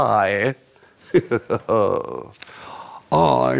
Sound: laughing

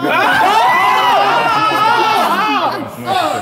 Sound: all yelling

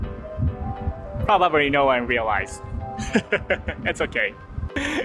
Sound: chuckles

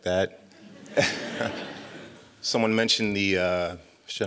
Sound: laughter

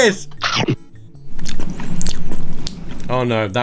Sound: chomping sound; chewing loudly

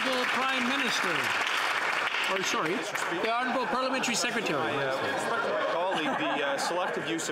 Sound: some Applause

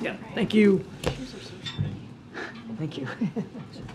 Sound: laughs

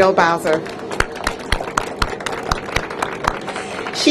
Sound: applause

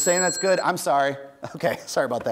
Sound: bell dings

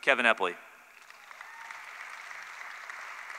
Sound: applause

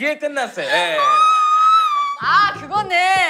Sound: screaming

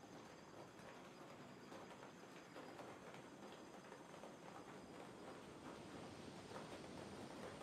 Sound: raindrops start to fall

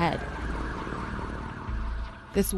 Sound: sirens

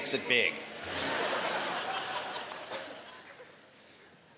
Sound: laughter

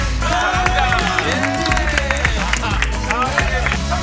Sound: blowing

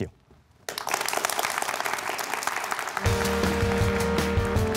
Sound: applause

